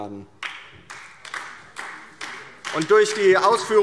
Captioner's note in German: Beifall DIE LINKE